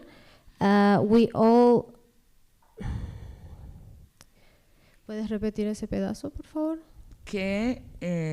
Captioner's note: speaking spanish